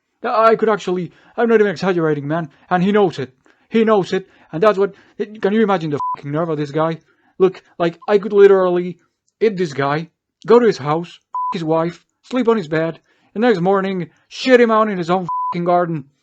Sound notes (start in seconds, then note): none